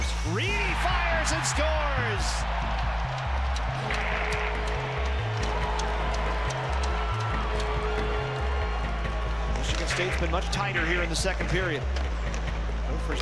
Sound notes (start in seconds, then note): 1.8 crowd cheering; 4.0 band playing